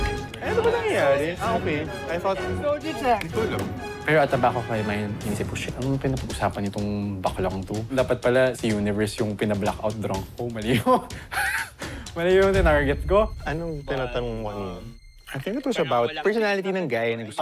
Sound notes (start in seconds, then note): 10.7 laughs